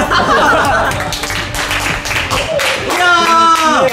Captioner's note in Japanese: 拍手